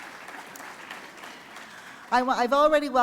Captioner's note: applause